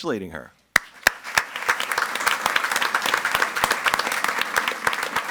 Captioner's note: audience applauds